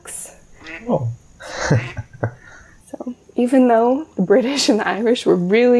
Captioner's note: laugh